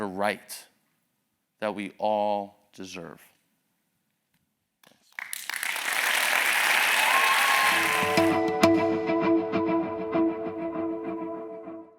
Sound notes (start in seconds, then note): 4.9 applause